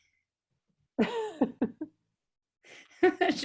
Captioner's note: laughing